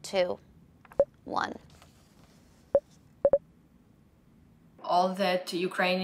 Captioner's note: computer beeps